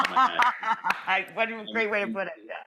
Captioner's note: laughing